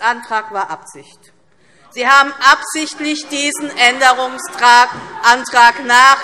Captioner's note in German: Lachen CDU und BÜNDNIS 90/DIE GRÜNEN